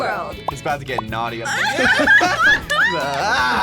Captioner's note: both laugh